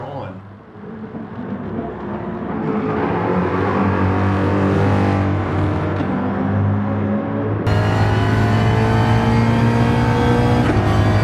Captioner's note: engines revving, cars noises